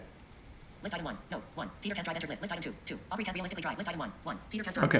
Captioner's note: VoiceOver on iPad speaks rapidly